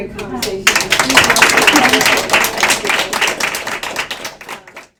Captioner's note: applause